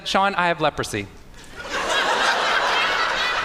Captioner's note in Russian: Смех